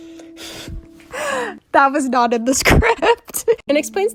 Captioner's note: wheeze